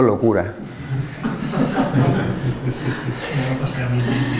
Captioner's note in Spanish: risas